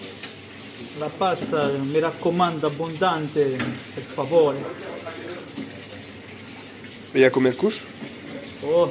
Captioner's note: speaks Italian